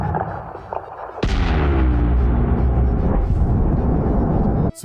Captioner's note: bewm